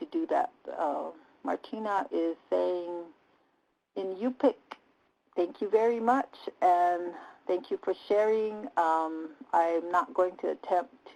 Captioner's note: native language spoken